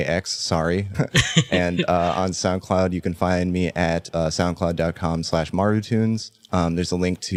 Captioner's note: laughs